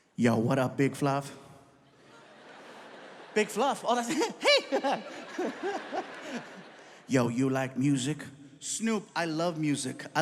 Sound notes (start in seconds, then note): 1.9 audience laughs